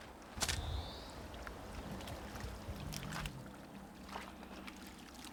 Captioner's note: water splashing